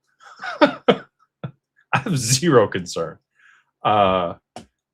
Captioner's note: laughter